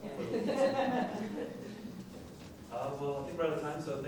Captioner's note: laughing